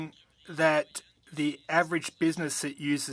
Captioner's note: speaking French